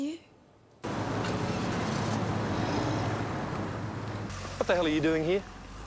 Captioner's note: car engine revving